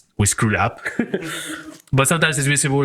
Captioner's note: laughs